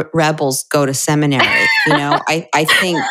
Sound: laughter

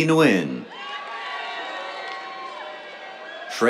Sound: cheers, applause

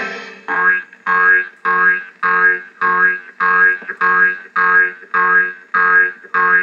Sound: boing Boing Boing

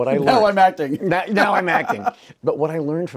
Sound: Wil laughing

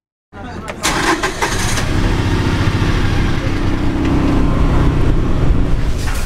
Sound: engine starting; engine running

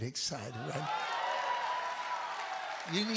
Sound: congregation cheering

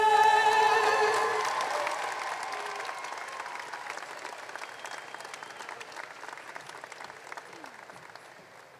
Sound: applause

